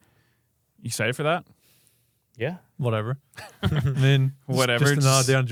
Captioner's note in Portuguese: risos